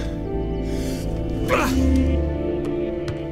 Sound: grunts

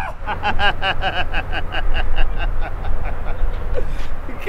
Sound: laughs

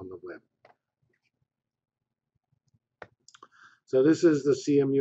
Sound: pause

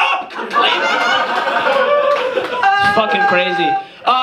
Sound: audience laughs

